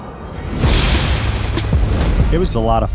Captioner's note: electricity crackling